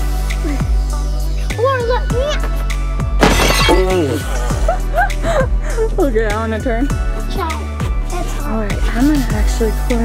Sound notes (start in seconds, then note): 3.2 presents shattering; 4.2 laughing